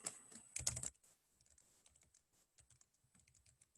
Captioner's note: keyboard clicks